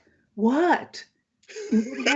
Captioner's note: laughs